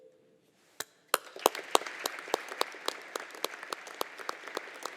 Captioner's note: audience applauding